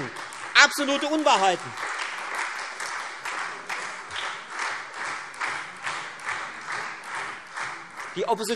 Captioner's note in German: Beifall Freie Demokraten und SPD